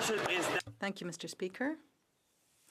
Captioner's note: speaking French